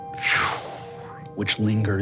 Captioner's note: whooshing